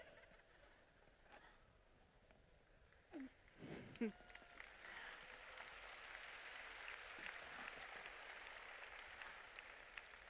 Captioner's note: laughter; applause